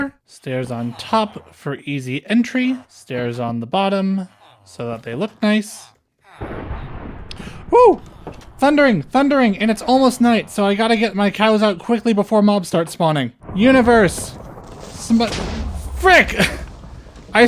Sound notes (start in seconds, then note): 7.3 gasp